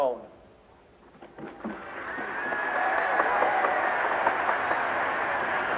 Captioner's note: audience cheering